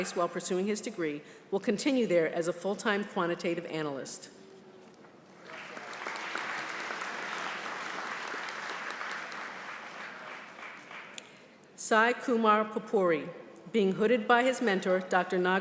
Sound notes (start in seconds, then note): 5.4 applause